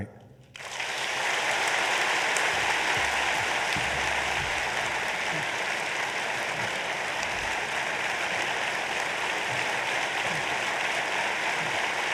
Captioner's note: applause